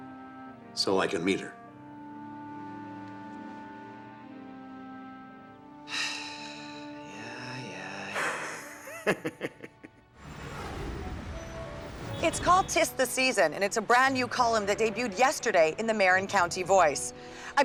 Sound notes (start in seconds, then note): 5.8 sighs; 8.2 giggling